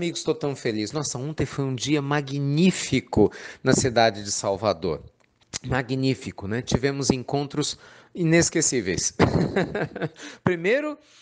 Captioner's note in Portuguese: Risos